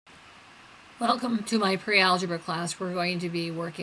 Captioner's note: voiceover